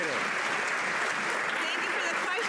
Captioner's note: some Applause